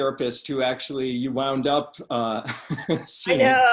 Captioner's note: laughs